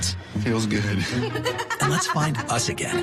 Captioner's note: laughs